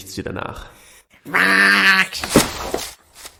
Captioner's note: groooooooow